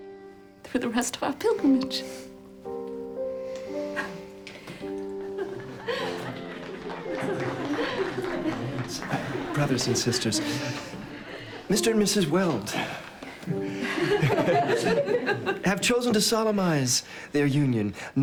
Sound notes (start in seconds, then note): 3.1 sobbing happily; 4.8 laughing and applauding